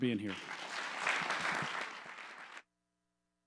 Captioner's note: applause